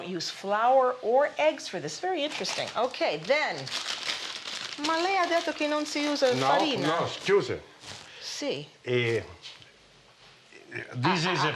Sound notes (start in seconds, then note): 3.7 speaking Italian